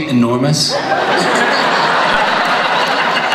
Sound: audience laughs

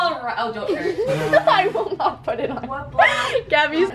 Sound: laughing

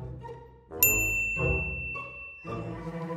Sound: ding

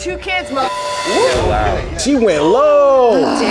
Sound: beep; group gasps

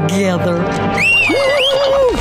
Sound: high-pitched whistling; ground rumbling; monster roaring

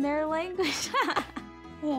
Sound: laughing

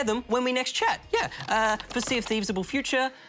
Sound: keys clack

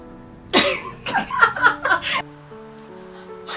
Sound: laughs

